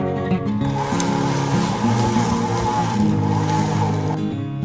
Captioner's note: mixing ingredients in stand mixer